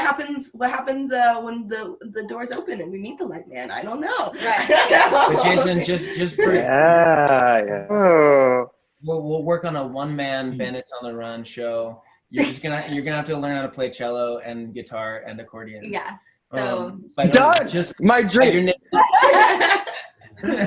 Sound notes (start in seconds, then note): 4.2 laughs